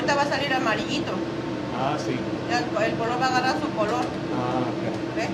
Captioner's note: speaking in foreign language